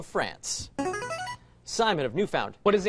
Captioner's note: buzzer